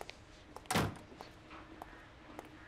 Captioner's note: Door closing